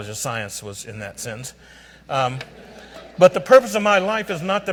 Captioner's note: audience laughs